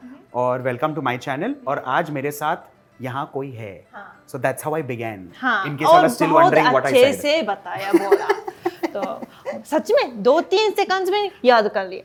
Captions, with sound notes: Welcome to my channel and today I've got someone with me Yes. So that's how I began. Yes. -in case you are still wondering what I said. -He did say it very well. [Laughter] I'm serious. He memorized it in 2-3 seconds!